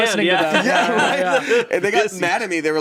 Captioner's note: everyone laughs